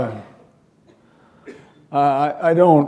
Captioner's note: chuckle